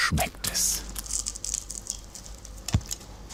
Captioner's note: loud crunching